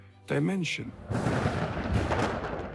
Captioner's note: thunder rumbles